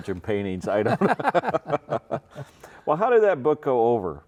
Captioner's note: both laughing